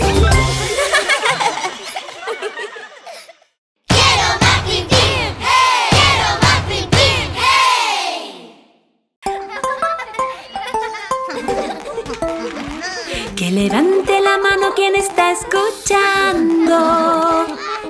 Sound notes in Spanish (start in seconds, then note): 0.0 Música Alegre; 0.0 Risas; 9.2 Musica Alegre; 9.4 Risas